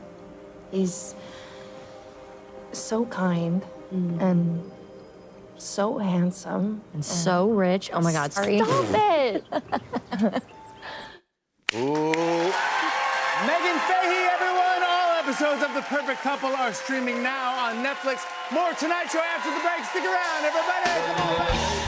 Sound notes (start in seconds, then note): 8.4 laughs; 11.8 cheers and applause